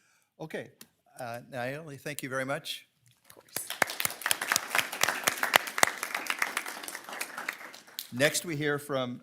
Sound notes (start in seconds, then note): 3.3 audience applauding